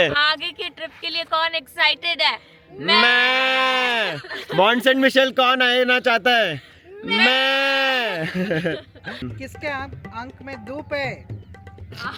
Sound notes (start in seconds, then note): 2.6 sheep Voice; 6.6 sheep Voice